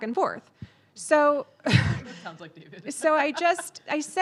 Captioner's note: laughs